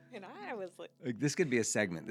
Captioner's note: laughing